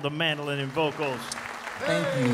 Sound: audience applauding

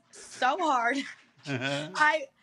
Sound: laughter

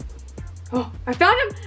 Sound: gasps

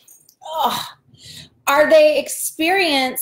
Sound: groans

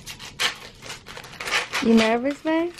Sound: paper crackling

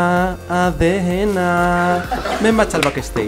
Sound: laughs

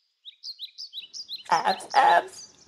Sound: birds

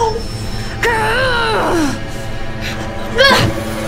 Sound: grunting

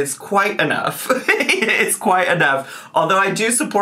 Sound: laughs

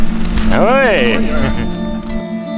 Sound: sounds of excitement

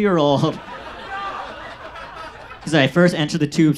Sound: audience laughs

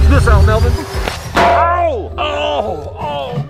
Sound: metal clinging; yelling in pain

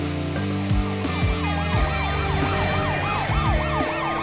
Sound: ambulance siren wails

